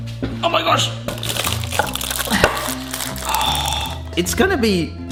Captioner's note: foil crackling